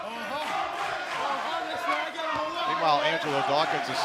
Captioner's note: fans chanting